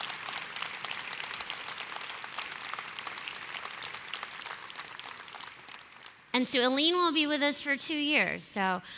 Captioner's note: applause